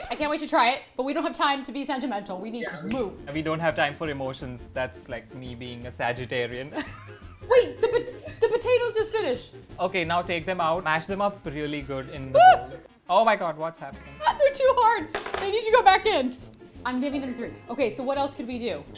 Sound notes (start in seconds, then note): 7.0 laughs; 12.3 screams